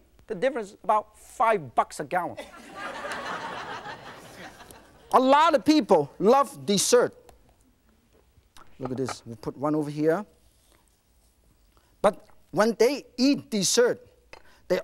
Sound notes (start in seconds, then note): 2.4 laughing